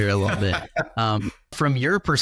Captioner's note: guest laughs